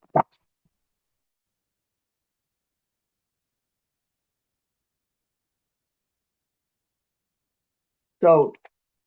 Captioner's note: pause